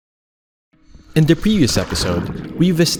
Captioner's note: water splashes